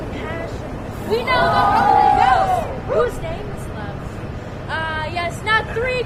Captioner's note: cheers